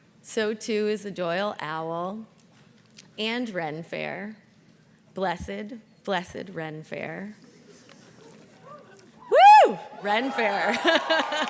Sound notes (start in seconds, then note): 8.3 graduates chuckle; 10.7 all laugh; 10.9 audience cheers and claps